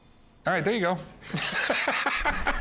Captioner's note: laughs